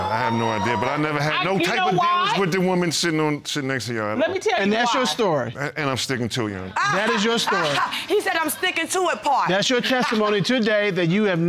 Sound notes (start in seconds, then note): 8.7 scoffs